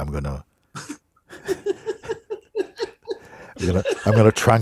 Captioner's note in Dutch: gelach